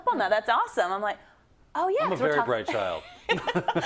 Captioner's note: laugh